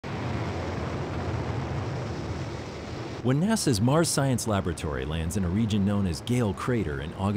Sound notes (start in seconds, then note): 0.0 roar of rockets slowing rover's descent